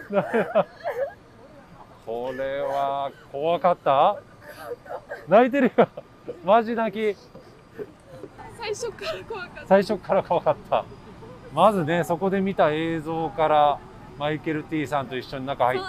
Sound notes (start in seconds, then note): 4.1 tears